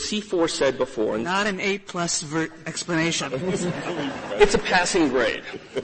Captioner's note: laughter